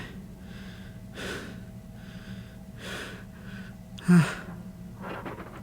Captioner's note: breathing